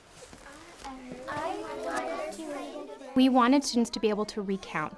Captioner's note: children all chatting at same time